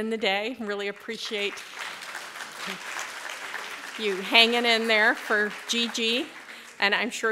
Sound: applause

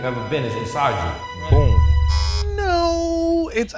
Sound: buzzer

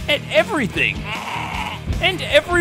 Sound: bleating

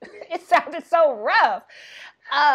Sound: laughing

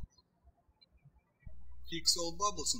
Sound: birds chirping

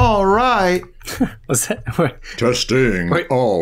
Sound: chuckles

